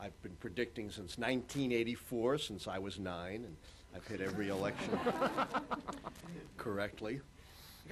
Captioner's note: laughter